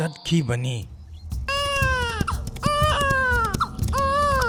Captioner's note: baby crying